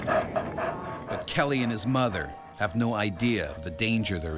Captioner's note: bear growling; voiceover